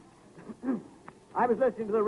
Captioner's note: clears throat